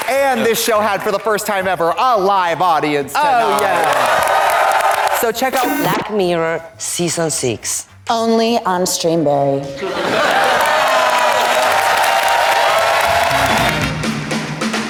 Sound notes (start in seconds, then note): 3.2 audience cheers; 12.0 audience applauds